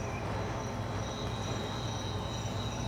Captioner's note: crickets join the birdsong